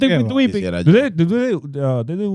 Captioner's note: speaking In Foreign Language